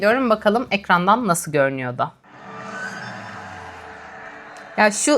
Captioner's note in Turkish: coşkulu tezahürat